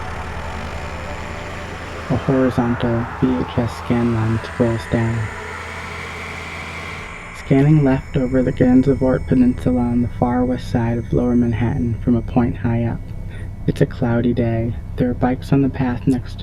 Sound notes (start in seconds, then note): 0.0 background music; 2.4 mechanical and ringing sounds